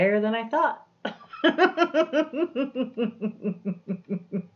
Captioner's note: laughs